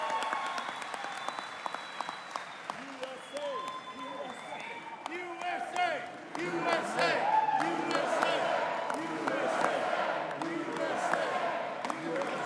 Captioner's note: audience chants "USA"